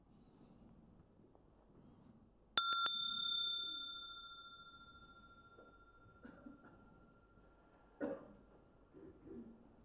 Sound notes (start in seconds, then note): 2.6 Mooji rings the bell; 6.7 silence